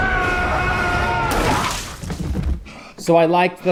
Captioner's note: men grunting; blood spattering; man thudding to floor